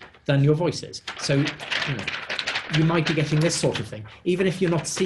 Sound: rustles paper

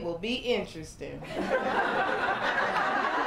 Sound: laughter, applause, and cheering

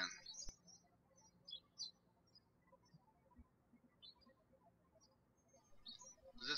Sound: birds chirping

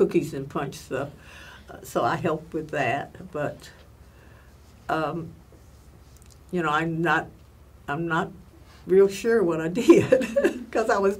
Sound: laughs

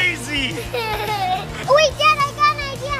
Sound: laughing

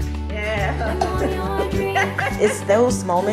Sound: laughing

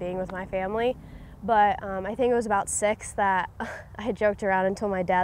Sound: laughs

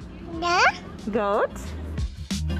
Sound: baby babbling; mellow music

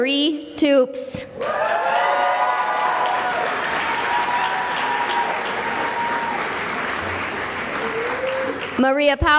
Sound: cheering and applause

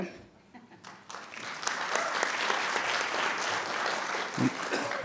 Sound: clapping

